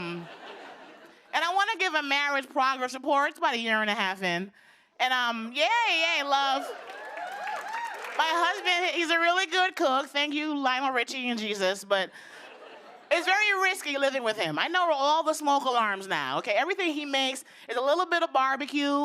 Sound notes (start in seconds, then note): 0.0 laughter; 6.5 cheers and applause